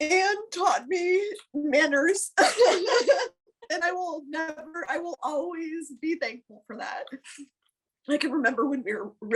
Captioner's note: laughter!